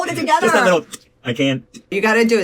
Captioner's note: ticks tongue